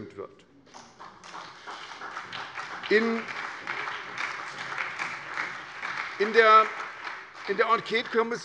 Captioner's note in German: Beifall bei der SPD und der FDP sowie bei Abgeordneten der CDU